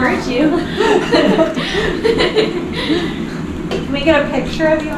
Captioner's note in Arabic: يضحك